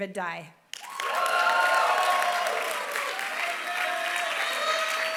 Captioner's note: applause